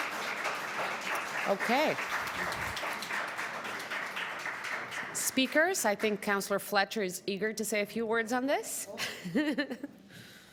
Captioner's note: applause